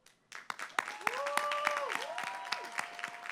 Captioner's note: applause